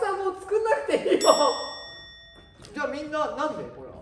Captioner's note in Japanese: 効果音 チーン